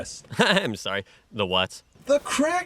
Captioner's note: nervous laughter